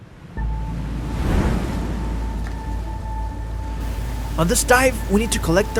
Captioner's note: waves crashing